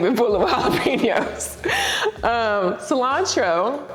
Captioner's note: laughs